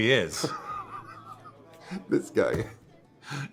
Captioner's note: Jimmy laughs